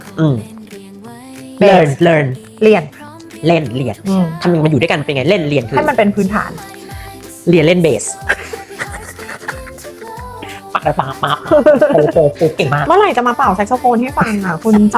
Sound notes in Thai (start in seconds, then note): 8.2 เสียงหัวเราะ